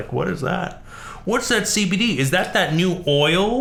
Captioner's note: midwestern accent